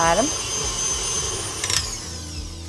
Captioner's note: mixer roars; cheerful acoustic music